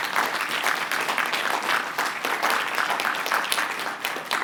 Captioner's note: applause